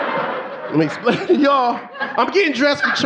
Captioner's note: audience laughing